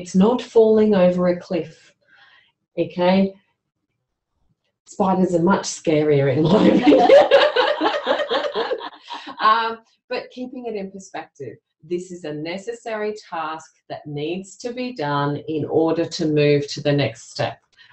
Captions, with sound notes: It's not falling over a cliff. Spiders are much scarier [laughter] but keeping it in perspective, this is a necessary task that needs to be done in order to move to the next step.